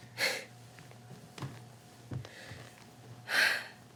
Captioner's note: heavy breathing